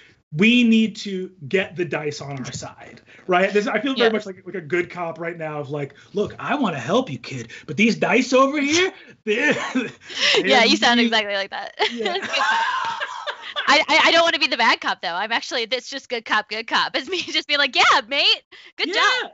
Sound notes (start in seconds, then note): 11.5 laughs